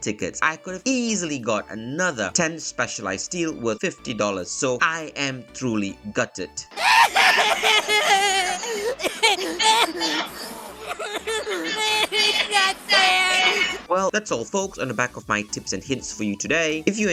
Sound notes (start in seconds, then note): 6.7 crying meme